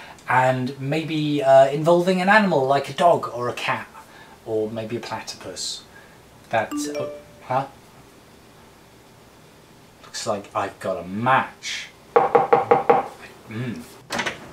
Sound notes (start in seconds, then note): 6.7 phone beeps; 12.2 knocking on door